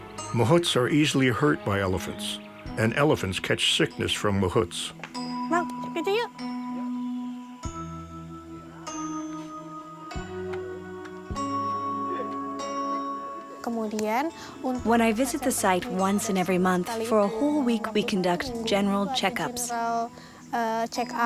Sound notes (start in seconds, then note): 5.6 speaking in foreign language; 7.2 gentle instrumental